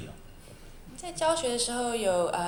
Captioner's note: Mandarin